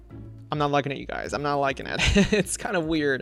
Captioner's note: laughs